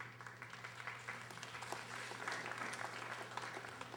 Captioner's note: audience applauding